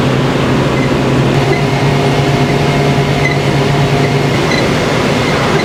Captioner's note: dusting powder